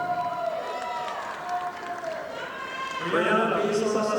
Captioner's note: audience applauding